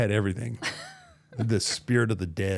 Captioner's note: laughs